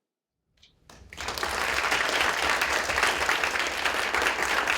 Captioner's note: applause